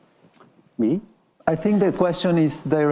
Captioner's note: attendees laughing